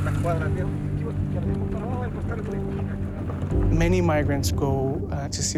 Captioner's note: man speaking Spanish